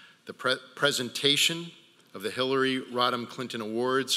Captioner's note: none